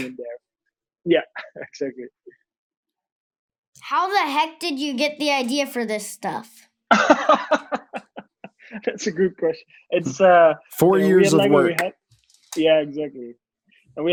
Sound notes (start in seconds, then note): 6.9 laughs